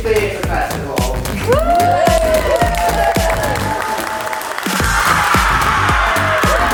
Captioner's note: audience cheers and applauds